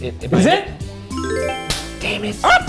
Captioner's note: magical chiming; hands slapping